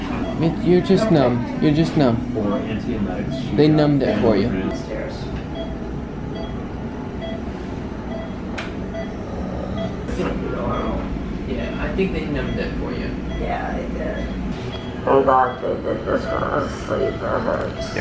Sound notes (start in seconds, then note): 6.2 beeping